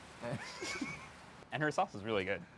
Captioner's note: chuckles